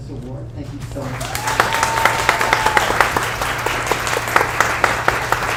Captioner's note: audience applauds